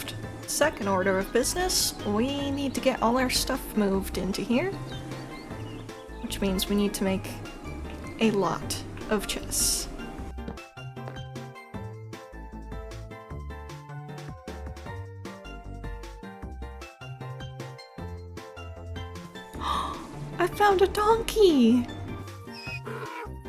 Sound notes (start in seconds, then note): 19.6 gasp